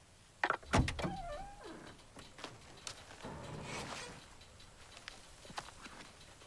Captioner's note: car door creaking